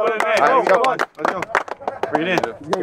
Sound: players clap

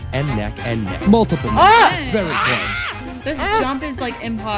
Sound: screaming

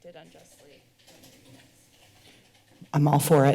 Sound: typing sound

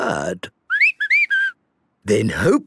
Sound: whistling

